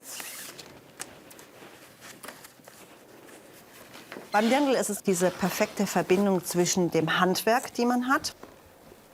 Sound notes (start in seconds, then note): 2.1 rustling